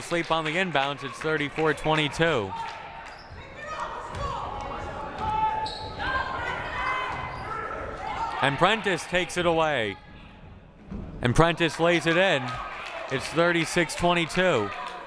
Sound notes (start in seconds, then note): 4.3 coaches shouting